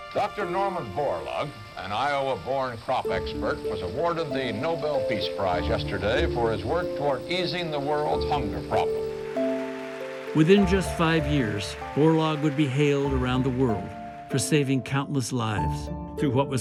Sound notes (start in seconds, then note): 9.4 applause